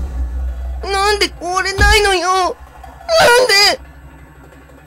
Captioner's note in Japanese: 窓を叩く音：ドン！